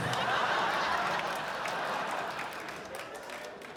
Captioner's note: audience laughs